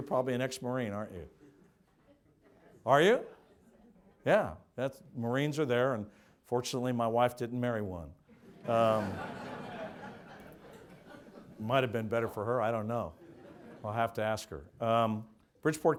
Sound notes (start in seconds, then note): 8.3 audience laughs